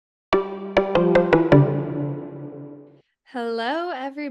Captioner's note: playful warble